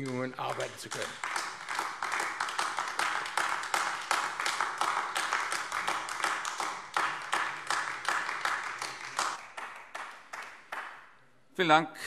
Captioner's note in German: Beifall AfD